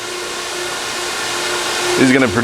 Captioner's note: machine noise